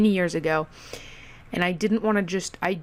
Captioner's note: breathe into mic wowee